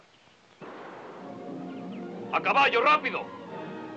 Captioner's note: gun blasting